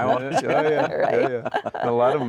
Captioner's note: all laughing